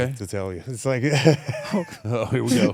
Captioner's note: laugh